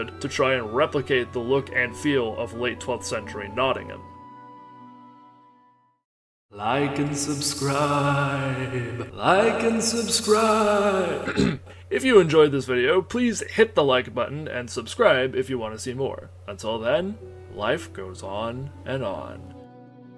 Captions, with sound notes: to try and replicate the look and feel of late 12th century Nottingham. "Sir Hiss": Like and subscribe... like and subscribe... (Clearing throat) If you enjoyed this video, please hit the like button and subscribe if you want to see more. Until then, life goes on and on.